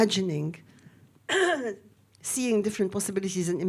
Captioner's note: clearing throat